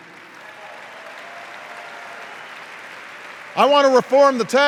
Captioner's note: applause